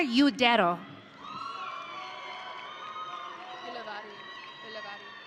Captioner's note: audience cheering